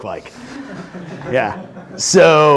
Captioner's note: laughing